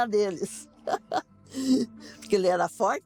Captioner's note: laugh